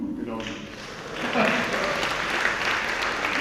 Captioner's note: applauds